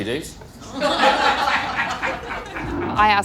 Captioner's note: laughter